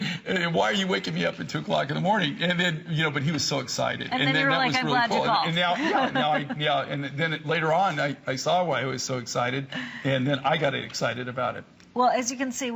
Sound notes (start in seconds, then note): 5.5 laughter